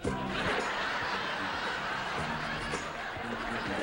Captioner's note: audience laughs